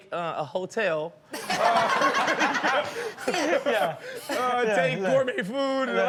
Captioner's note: everyone laughs